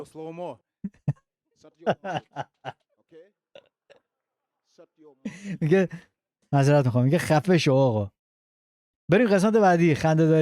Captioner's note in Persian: خنده